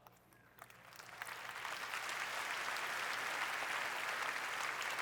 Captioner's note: applause